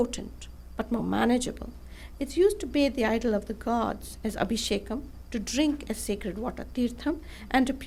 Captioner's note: non-english speech